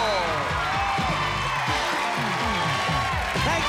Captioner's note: cheers and applause